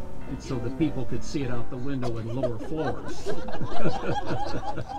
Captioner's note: laughter